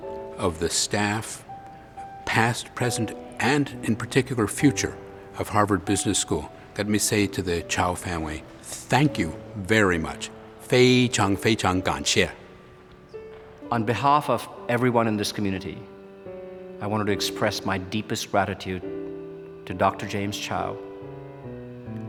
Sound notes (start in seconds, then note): 10.4 speaking chinese